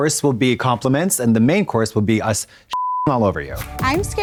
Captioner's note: beep